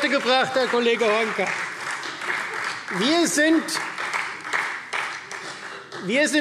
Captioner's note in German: Beifall Freie Demokraten